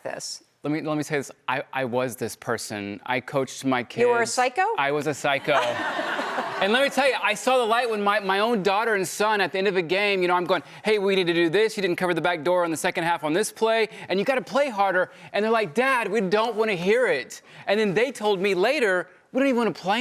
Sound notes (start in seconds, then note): 5.4 laughing